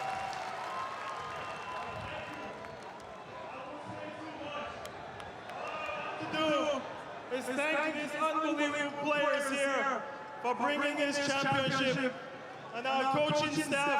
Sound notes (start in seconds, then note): 0.0 applause; 2.3 cheering